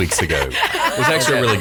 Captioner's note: laughs